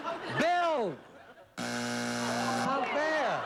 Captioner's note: buzzer